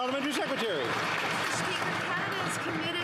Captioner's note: applause